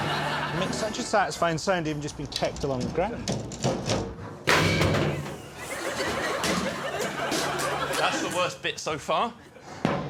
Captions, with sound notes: It makes such a satisfying sound even just being kicked along the ground. [thudding] That's the worst bit so far.